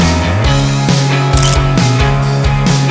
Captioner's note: photo click